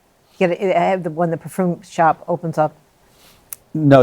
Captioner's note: none